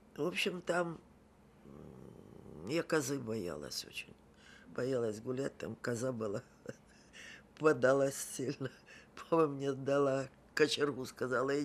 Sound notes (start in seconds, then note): 6.6 laughing